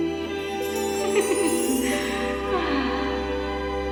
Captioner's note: laughs